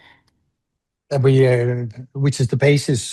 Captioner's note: foreign language